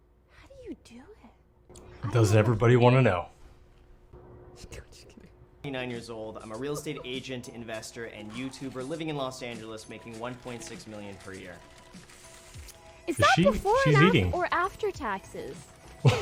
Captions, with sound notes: How do you do it? - Does everybody wanna know? (laughs) - 29 years old, I'm a real estate agent, investor and YouTuber, living in Los Angeles making 1.6 million per year. - Is that before-- - She's eating. - Or after taxes?